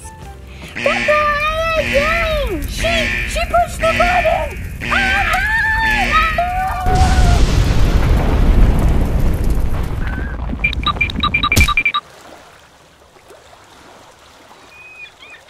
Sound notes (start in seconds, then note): 0.8 buzzing; 7.7 volcano erupting; 10.6 cartoon crab walking; 12.5 waves lapping; 14.7 seagulls squawking